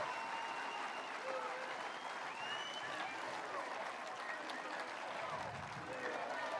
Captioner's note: applause